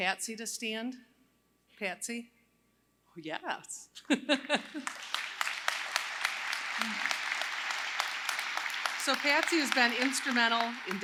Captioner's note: applause